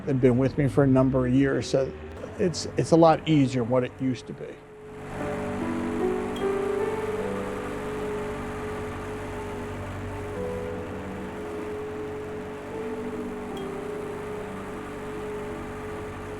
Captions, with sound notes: they've been with me for a number of years. So it's a lot easier what it used to be. (gentle piano music) (Zamboni whirring)